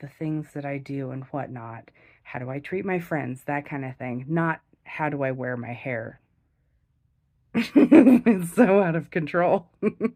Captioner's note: laughs